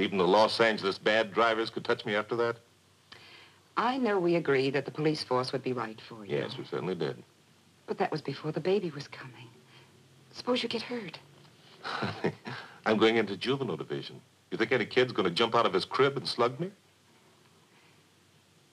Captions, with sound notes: Well do you think that even the Los Angeles bad drivers could touch me after that? - I know we agreed that the police force would be right for you. - Yes, we certainly did. - But that was before the baby was coming, suppose you get hurt? (Pete chuckles) - I'm going into juvenile division. Do you think any kid is going to jump out of his crib and slug me?